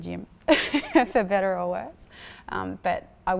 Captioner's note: laughs